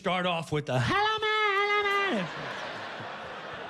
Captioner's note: chanting in gibberish